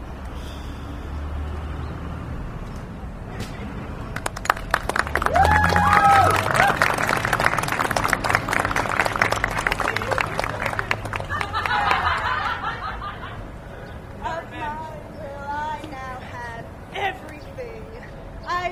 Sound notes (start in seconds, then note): 4.1 audience applause; 4.3 laughter